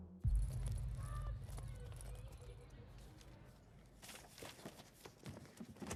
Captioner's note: students chattering